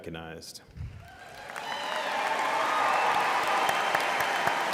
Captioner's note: audience applauding